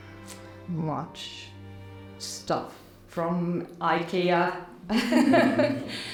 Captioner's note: laughing